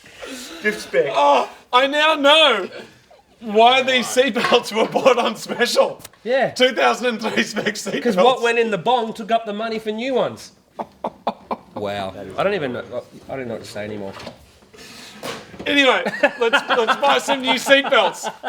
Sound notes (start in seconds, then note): 3.9 clatters; 7.9 laughs; 10.4 laughing; 15.8 laughing